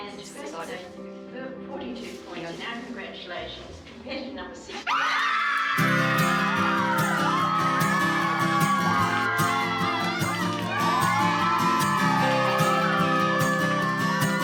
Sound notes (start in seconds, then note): 4.8 team whooping; 5.8 uplifting music